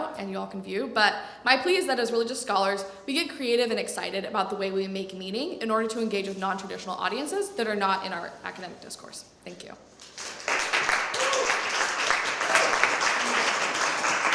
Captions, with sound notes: and you all can view. But my plea is that as religious scholars, we get creative and excited about the way we make meaning in order to engage with nontraditional audiences that are not in our academic discourse. Thank you. [APPLAUSE]